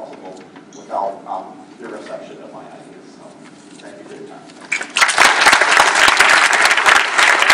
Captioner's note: applause